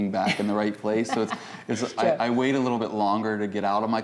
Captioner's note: laughter